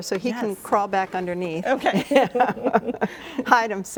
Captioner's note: both laughing